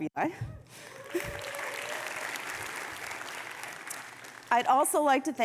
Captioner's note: audience clapping